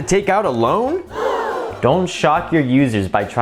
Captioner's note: person gasping